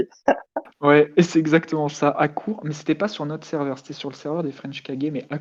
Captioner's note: laugh